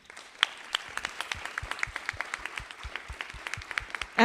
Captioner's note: applause